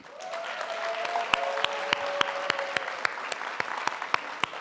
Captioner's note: audience applauding